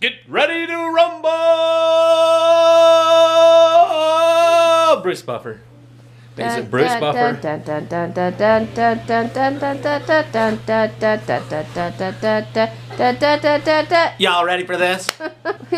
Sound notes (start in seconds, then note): 6.4 humming